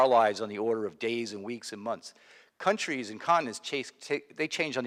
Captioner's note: none